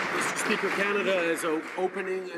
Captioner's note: some Applause